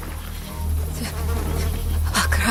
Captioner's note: insects buzzing